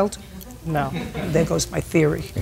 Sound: people laugh

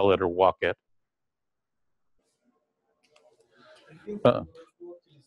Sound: pause

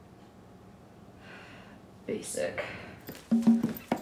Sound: sighing; jazzy music

